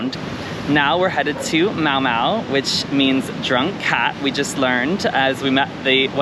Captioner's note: in Thai